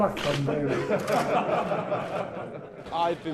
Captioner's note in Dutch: publiek lacht